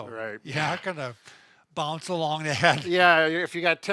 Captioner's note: laughs